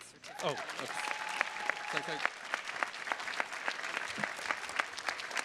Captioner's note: attendees cheers and claps